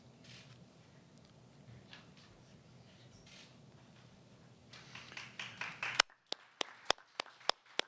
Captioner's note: applause